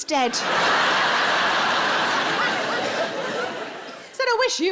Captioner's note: audience laughs